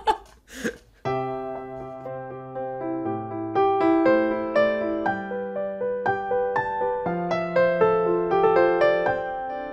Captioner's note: laughter